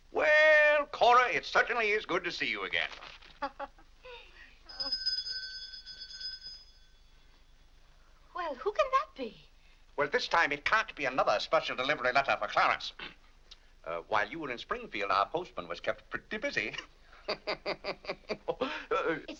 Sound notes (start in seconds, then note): 3.3 Cora laughs; 4.6 bell rings; 17.1 laughs